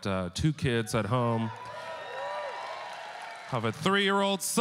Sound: audience cheering

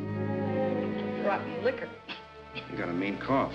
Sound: coughs

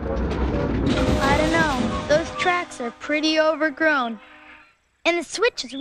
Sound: tootle

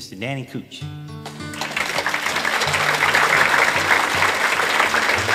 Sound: audience applauds

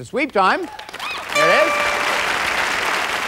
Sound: applause

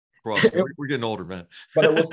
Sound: laugh

